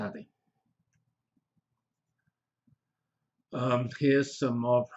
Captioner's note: pause